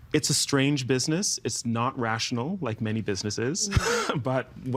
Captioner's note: chuckling